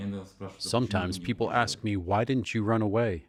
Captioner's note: through translator